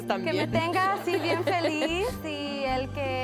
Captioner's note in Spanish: Risas